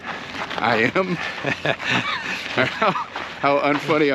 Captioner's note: laughs